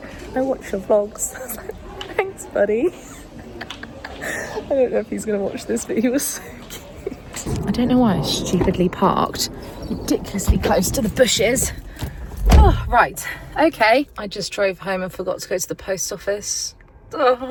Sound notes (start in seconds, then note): 2.8 laughing; 6.4 laughing